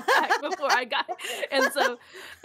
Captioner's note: laughs